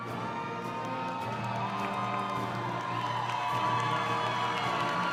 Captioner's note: crowd cheering